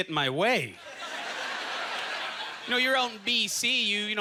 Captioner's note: audience chuckling